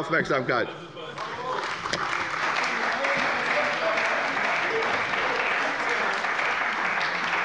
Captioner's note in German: Beifall bei der CDU